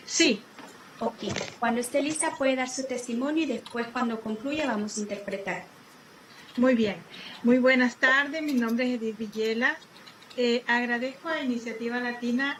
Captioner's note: spanish